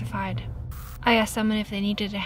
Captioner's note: static crackles